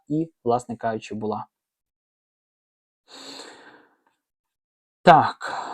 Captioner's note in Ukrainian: сопіння